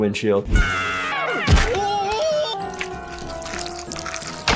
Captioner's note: animals screaming